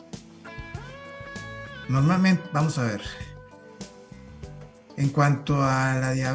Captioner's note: tears